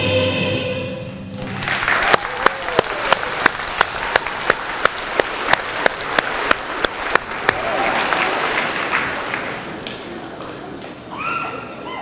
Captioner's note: applause